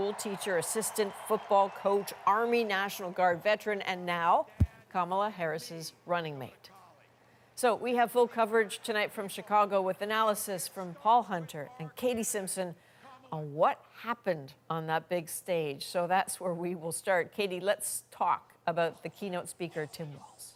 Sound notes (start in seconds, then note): 0.0 applause